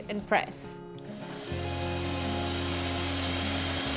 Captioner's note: whirring